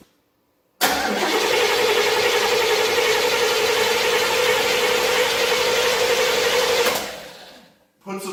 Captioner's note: engine cranking